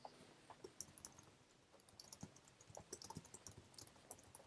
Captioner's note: keyboard typing